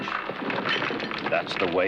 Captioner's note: clattering